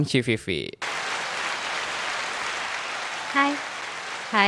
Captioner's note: applause